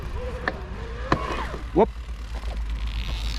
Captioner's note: chain snapped